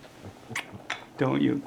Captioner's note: the sound of Jesse kissing Florio on the neck